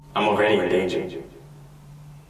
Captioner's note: none